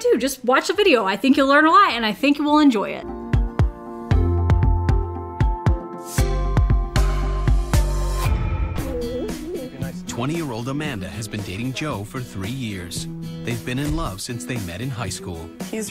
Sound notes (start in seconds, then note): 3.0 upbeat music; 8.8 chuckles